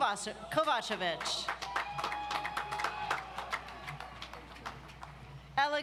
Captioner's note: audience applauds